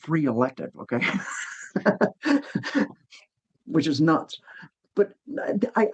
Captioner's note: laughs